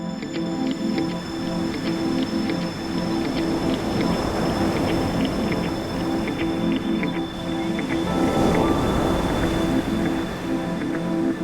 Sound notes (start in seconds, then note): 1.9 waves churn